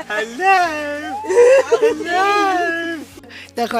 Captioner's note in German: Lachen